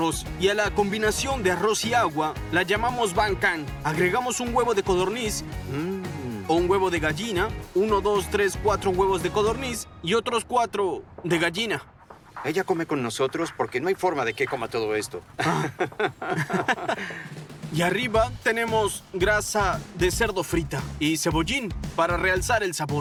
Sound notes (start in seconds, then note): 15.2 laughs